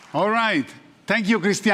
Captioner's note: applause